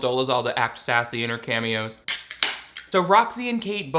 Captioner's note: can tab popping